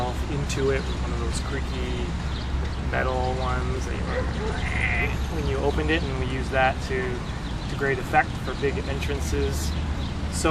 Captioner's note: squeek